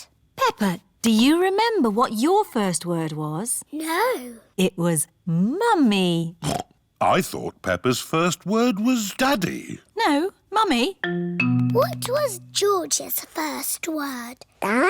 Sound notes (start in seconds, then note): 6.7 snorts